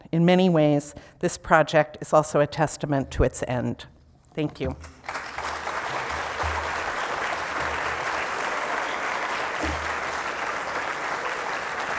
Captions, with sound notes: in many ways, this project is also a testament to its end. Thank you. (applause)